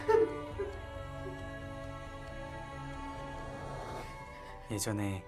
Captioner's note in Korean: 지석 흐느끼는 소리; 고조되는 음악; 시계 째깍이는 소리